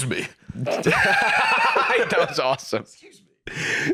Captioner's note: laughing